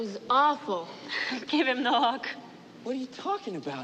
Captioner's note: laughing